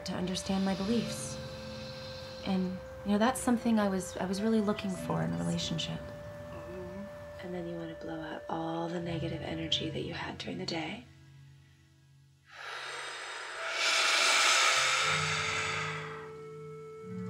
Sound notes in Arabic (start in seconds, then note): 12.5 الزفير بصوت عال